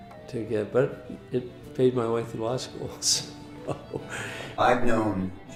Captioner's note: chuckles